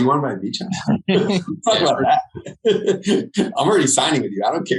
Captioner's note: laughing